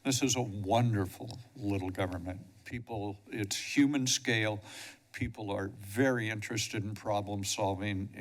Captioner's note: none